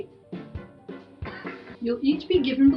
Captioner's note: cough